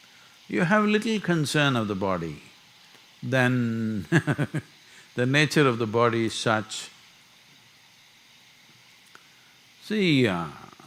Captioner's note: laughs